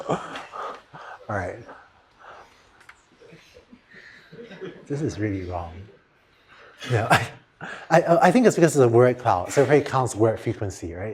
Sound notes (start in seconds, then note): 6.7 laughter